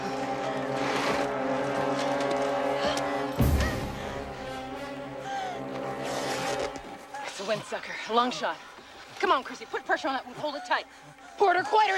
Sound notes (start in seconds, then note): 3.0 panting; 11.7 Warzenak Sobbing